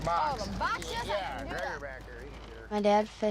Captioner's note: indistinct crew chatter